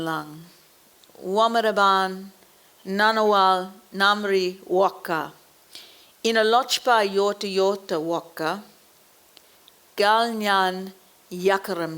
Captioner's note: speaks Aboriginal language